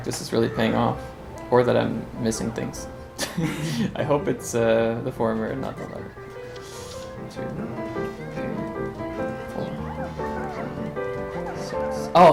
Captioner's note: laughs